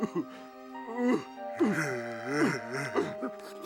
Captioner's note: sobbing